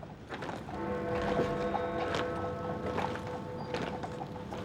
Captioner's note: bell ringing